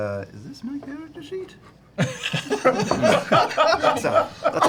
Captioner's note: all laugh